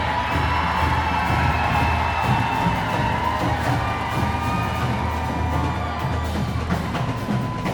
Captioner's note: crowd cheering